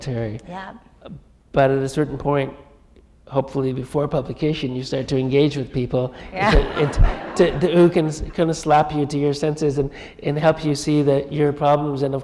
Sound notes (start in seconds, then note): 6.4 laughter